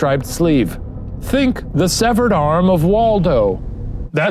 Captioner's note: none